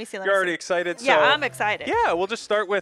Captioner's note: excited